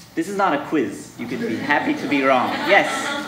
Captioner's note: audience laughing